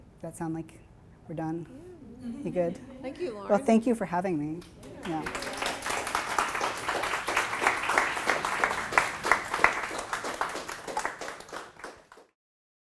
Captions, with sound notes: That sound like we're done? You good? - Thank you, Lauren. - Thank you for having me. (audience clapping)